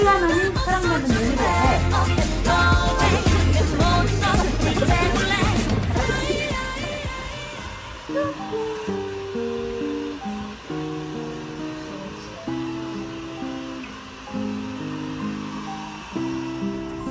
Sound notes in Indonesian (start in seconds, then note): 2.6 obrolan dipercepat; 8.9 suara imut dalam bahasa Korea; 10.4 suara pengering rambut di latar